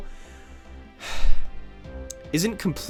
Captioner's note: sigh